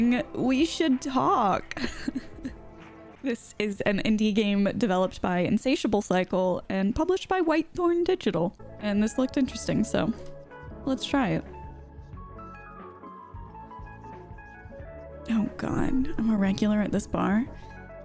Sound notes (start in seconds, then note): 1.7 laughs; 11.7 upbeat music